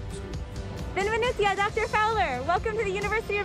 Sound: speaking in foreign language

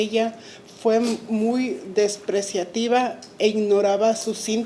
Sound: speaking Spanish

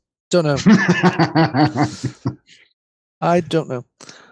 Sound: laughter

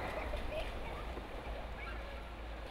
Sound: child giggling

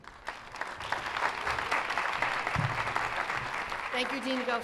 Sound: applause

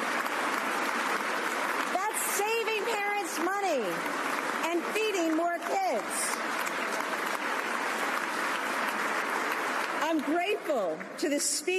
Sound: applause

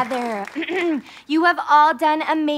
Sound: clears throat

